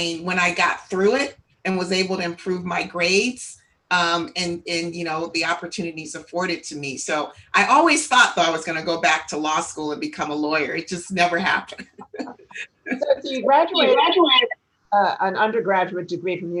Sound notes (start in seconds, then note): 11.6 laughs